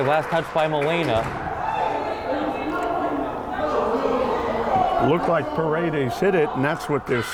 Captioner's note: arguing